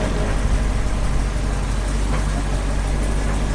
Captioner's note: truck engine idling